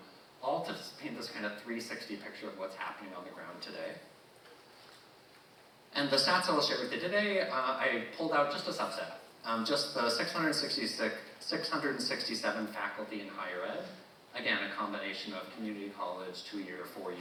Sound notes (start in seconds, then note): none